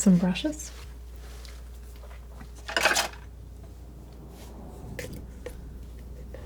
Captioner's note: scratching